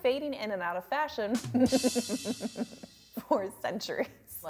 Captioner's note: evil laugh